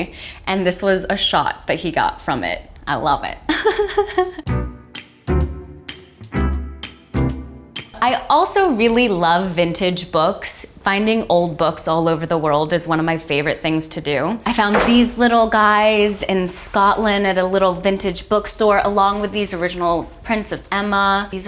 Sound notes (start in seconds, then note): 4.0 laughs; 4.4 playful jazz music